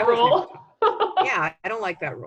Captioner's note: laughing